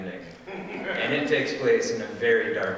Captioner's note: audience laughing